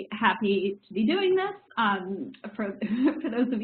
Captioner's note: laughs